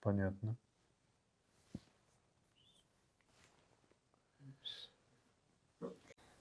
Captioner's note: pause 7 seconds